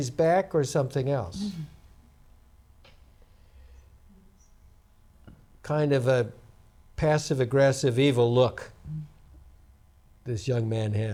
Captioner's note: laughs